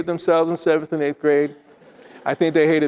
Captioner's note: attendees laughing